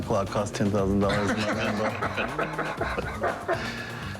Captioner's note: laughter